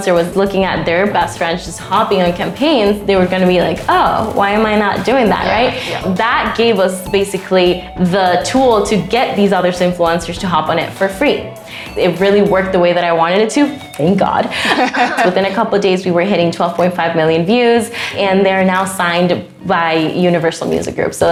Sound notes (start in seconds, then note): 14.5 laughs